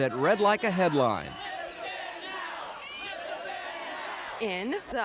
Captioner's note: crowd chanting